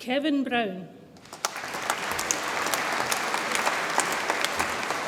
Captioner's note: audience applauds